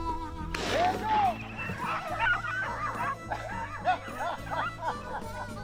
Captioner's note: gun fires; laughing